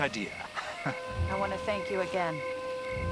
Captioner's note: chortles